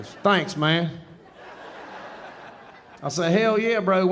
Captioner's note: audience laughing